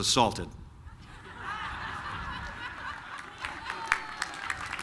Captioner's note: laughter